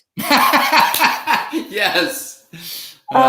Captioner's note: Mark laughs